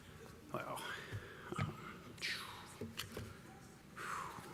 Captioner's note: sighs